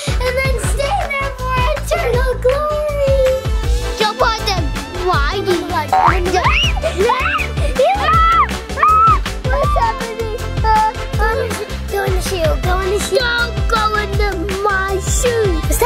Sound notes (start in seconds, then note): 5.7 bouncing spring; 6.7 children yelling